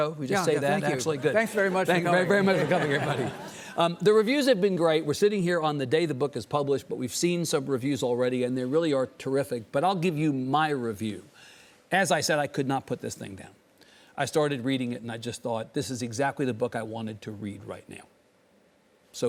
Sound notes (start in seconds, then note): 3.2 audience laughing